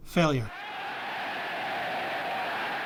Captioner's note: crowd cheers